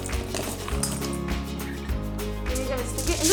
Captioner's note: beans clinking